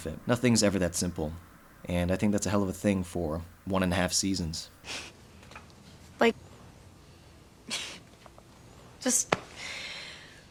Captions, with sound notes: Nothing’s ever that simple, and I think that’s a hell of a thing for one and a half seasons. (chuckles) Like... (laughs) Just...